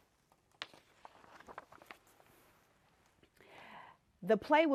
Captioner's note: page turning